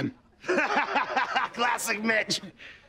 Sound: laughing

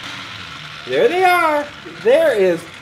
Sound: voiceover

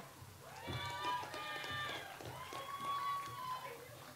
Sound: audience applauds

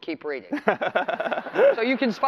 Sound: laughter

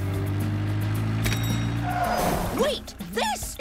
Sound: bell dings

